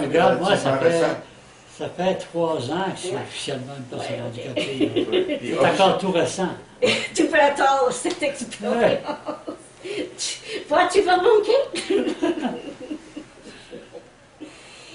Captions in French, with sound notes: -- Regarde. Ça fait trois ans que je suis officiellement une personne handicapées. C'est encore tout récent. -- [riant] Tu peux attendre cette expérience. Tu vois ce que tu vas manquer?